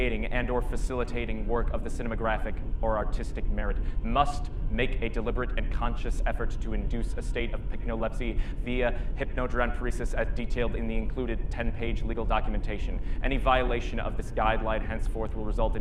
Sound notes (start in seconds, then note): none